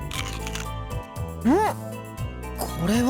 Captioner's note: gag